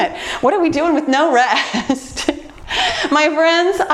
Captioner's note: laughs